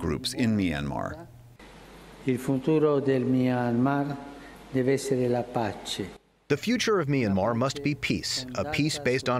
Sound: through translator

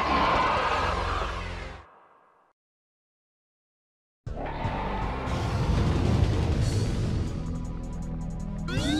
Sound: roar gwarrr harrrr

